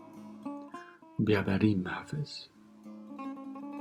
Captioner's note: reading in Farsi